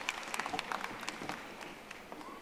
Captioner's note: audience applauding